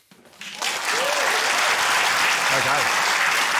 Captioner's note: cheering, applause